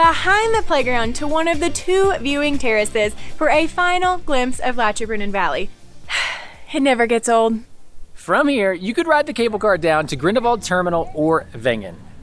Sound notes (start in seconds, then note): 6.1 sigh